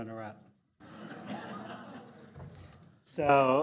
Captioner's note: audience laughing